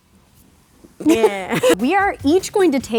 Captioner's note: laughing